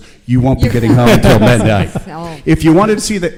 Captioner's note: laughing